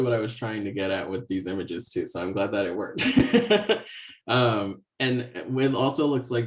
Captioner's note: laughs